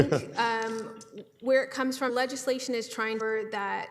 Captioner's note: laughing